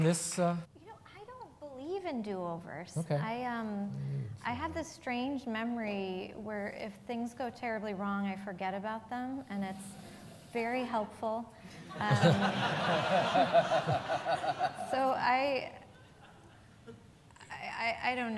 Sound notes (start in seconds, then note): 14.4 laughs